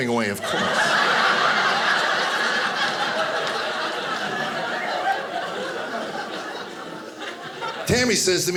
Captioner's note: audience laughing